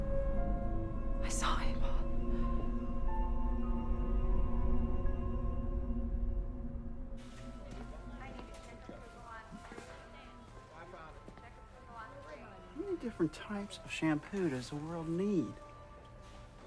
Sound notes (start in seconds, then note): 0.1 suspenseful music; 2.5 suspenseful music; 8.5 store worker announcing